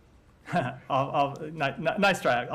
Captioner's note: laughter